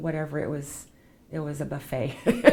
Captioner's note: laughs